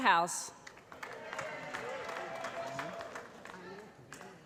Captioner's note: applause